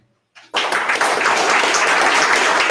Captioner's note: audience applause